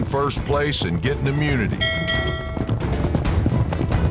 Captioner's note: rings bell